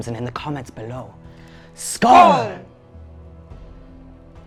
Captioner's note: toast horns